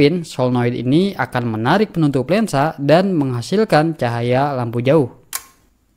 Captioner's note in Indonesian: Shutter